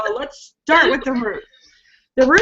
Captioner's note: laughing